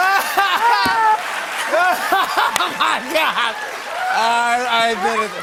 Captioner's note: laughing